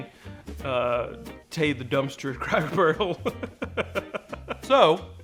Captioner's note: laughs